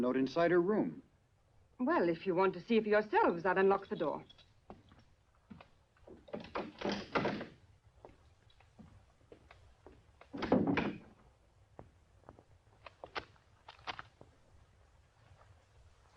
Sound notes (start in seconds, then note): none